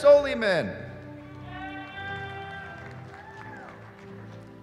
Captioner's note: cheering